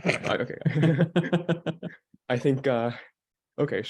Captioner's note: everyone laughing